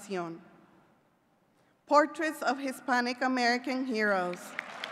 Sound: clapping

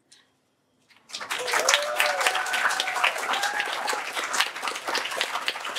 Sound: applause

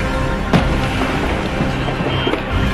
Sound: explosion

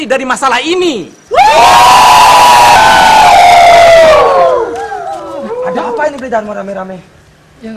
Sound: people shouting

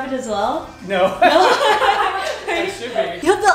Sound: laughs

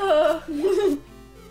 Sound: laughter

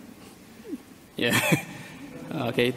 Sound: laughs

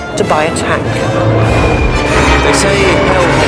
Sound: planes whistling

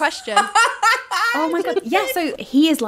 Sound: laughing

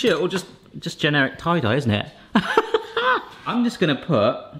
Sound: laughs

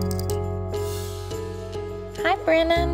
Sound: clicking; dramatic music

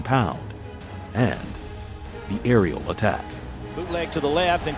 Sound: voiceover

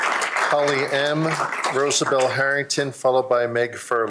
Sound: applause

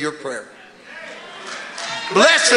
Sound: congregation muttering in agreement

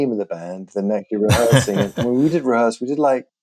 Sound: laughter

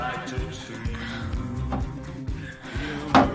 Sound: pants and moans

